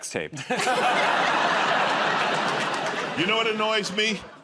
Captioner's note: laughter